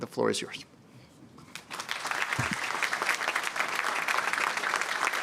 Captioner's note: applause